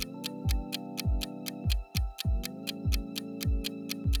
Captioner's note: clock ticks